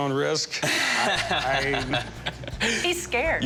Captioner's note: laughing